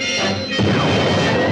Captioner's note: bang